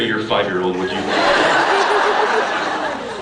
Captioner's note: laughs